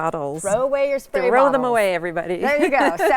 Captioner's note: laughs